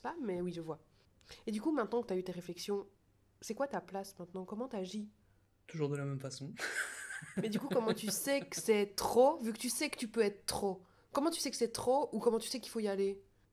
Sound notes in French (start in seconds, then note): 6.6 rire